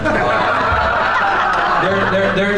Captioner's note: crowd laughs